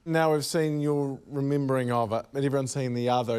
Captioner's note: none